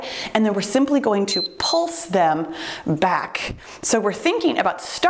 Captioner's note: timer beeps